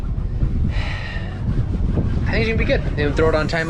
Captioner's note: sighs